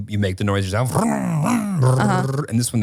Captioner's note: imitating car sounds